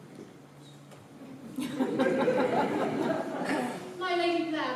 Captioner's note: laughter